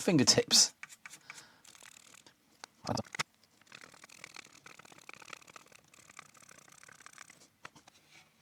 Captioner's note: keyboard Clacking